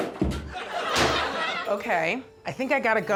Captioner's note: iron thudding; harpsichord music; audience laughing